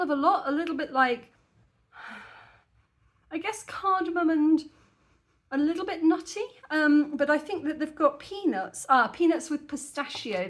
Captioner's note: sniffing